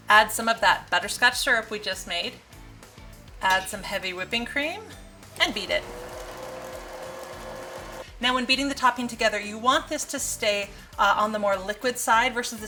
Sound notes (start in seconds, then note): 5.3 machine buzzing